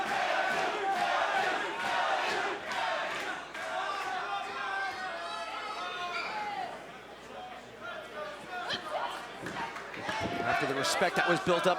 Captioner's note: crowd cheering